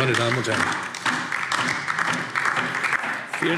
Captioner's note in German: Beifall DIE LINKE